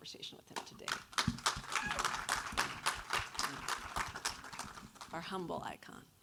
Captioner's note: audience applauds